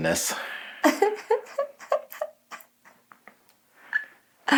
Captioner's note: chuckles